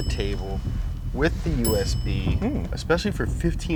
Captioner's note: bell dings